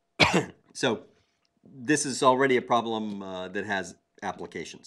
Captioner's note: cough